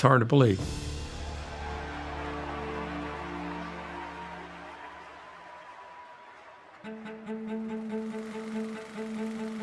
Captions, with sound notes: In a lot of ways, it's hard to believe. [crowd cheering]